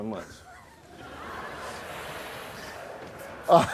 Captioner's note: laughs